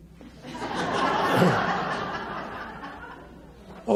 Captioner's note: audience laughs